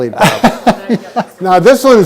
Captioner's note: laughs